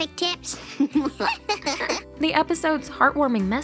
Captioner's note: laughing